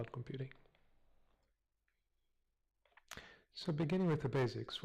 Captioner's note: pause